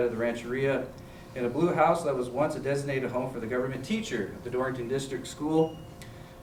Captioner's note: none